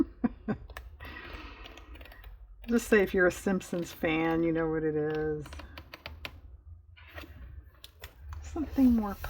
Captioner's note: laughs